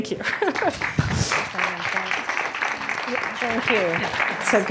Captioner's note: audience applauding; laughs